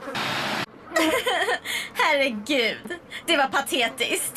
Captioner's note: laughs